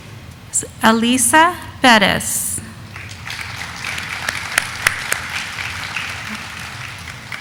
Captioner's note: audience applauding